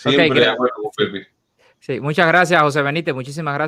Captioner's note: laughs